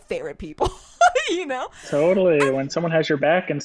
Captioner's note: laughs